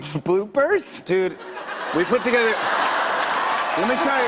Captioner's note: laughter; cheers and applause